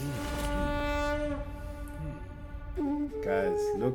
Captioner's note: conch blows; Bheem hums; soothing flute music playing